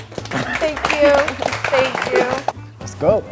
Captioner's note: group applauds